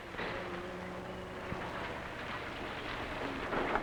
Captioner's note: engine rumbling